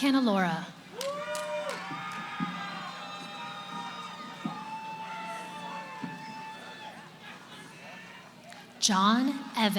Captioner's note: cheering